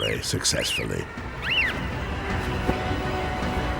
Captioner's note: bird squeaks